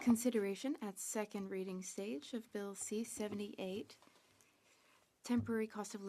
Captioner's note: speaking French